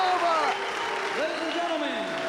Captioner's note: spectators applauding